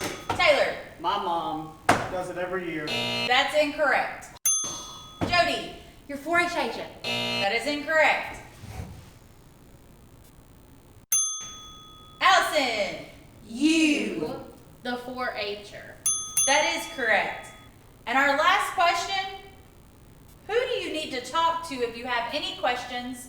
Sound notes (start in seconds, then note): 2.8 buzz; 7.0 buzz; 14.9 ding Ding